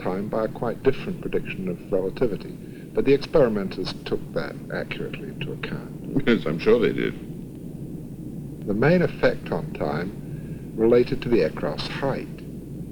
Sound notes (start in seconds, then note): 6.1 laughs